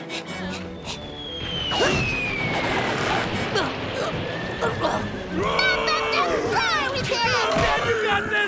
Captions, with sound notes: [grunting] Mop up the floor with him! Dad's got this!